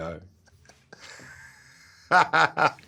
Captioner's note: laughs